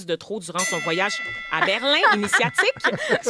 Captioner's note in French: ding!